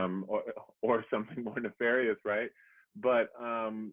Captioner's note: chuckles